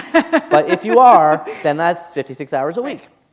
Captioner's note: laughter